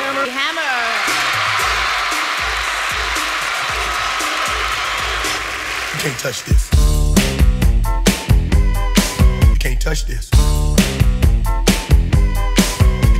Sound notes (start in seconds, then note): 1.8 applauding